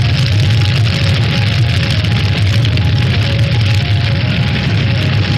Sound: crackling

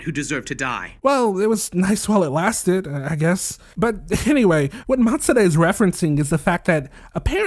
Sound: sigh

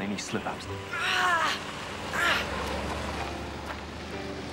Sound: groaning

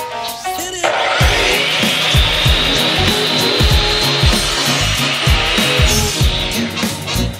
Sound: power saw running

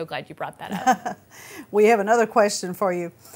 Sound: chuckles

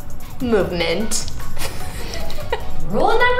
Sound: laughs

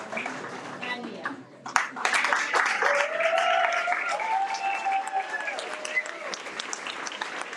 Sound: everyone applauds and cheers

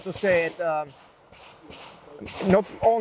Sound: gunfire popping

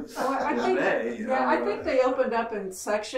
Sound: laughing

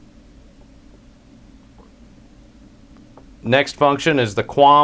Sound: pause

